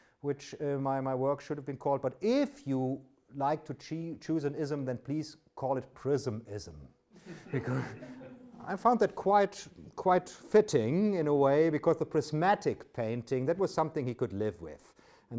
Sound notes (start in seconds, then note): 7.2 audience laughs